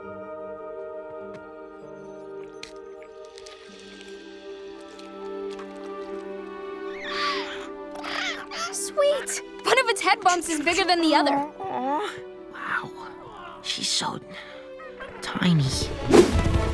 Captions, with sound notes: [squelches] [squeals] Sweet. One of its head bumps is bigger than the other. Aw. Wow. She's so tiny. [exciting music]